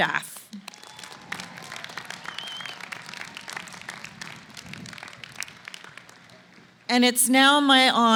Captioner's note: applause